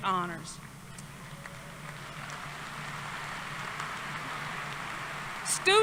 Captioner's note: applause